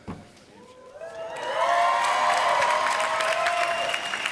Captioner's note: applause